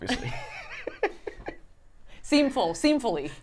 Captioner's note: laugh